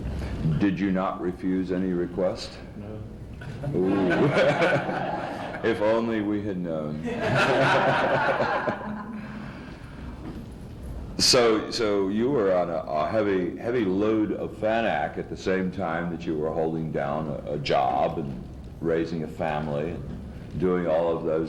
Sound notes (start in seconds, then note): 3.7 much laughter; 7.0 laughter